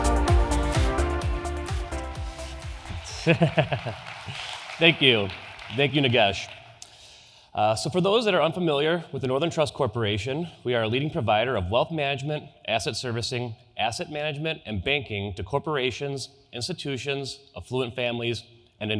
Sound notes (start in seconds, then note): 2.8 laughs; 4.6 audience applause